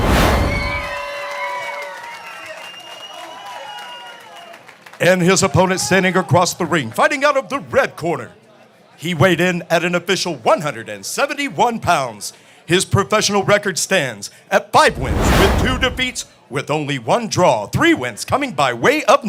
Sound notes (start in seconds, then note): 3.6 applause